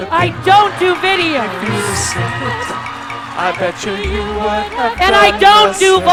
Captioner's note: audience laughs